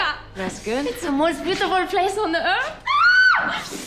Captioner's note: screams